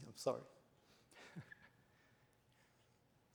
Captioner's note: chuckles